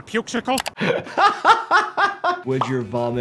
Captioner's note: doctor laughs